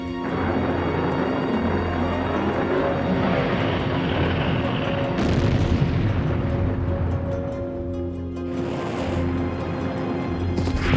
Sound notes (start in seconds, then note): 0.1 engine roaring; 5.0 explosion roars; 10.6 explosions roar